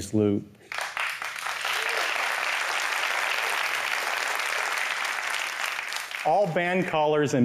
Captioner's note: applause